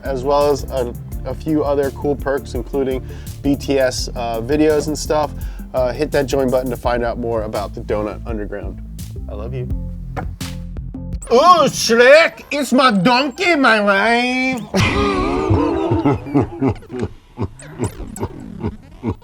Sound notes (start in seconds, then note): 14.7 slowed down laughter